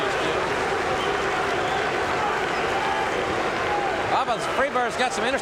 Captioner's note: audience cheering